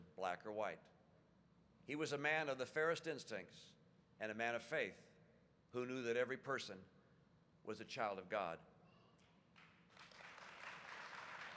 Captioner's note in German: Applaus